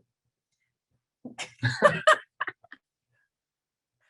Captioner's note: both laugh